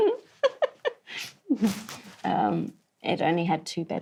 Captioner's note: laughs